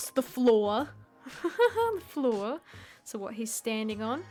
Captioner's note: chuckle